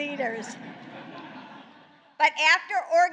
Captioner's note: laughter